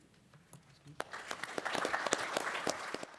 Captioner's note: applause